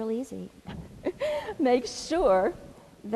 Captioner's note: laugh